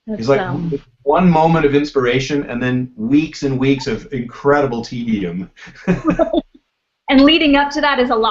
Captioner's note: laughs; laughs